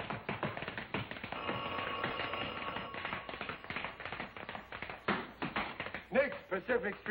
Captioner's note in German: telefon klingelt